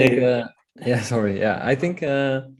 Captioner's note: chuckling